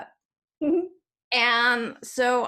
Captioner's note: giggles